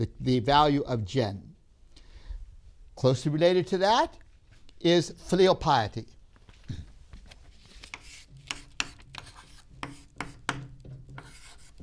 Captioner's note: chalk sounds